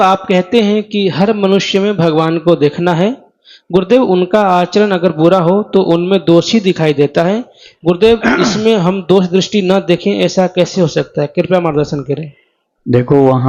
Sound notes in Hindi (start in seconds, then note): 8.1 खांसने की आवाज़; 8.2 गला साफ़ करने की आवाज़